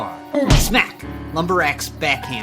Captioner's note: punch thudding